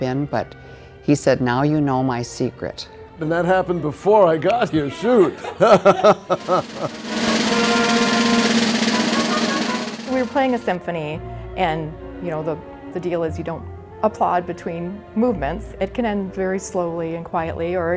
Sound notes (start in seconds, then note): 5.1 laughing; 6.1 quick drumming